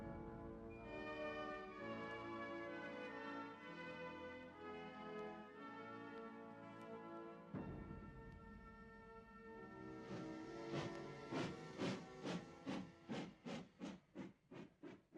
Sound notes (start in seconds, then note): 10.6 train thudding